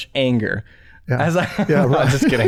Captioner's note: laughter